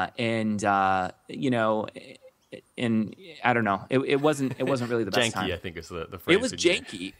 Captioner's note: laughs